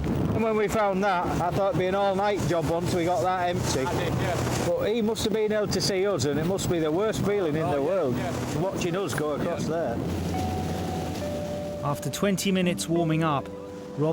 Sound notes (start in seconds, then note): 4.1 waves roaring; 10.9 gentle music